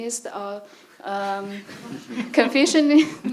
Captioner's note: audience laughs